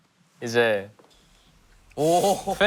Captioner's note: hesitant